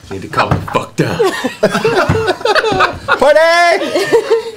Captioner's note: laughter